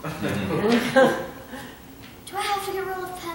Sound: laughter

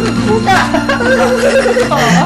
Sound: both laughing

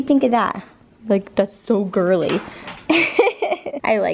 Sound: laughs

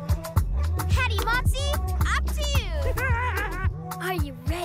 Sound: giggles

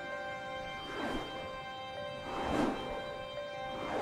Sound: whooshing

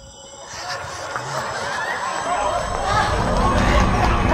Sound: eerie laughter echoes

